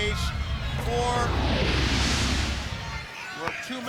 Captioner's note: logo whooshing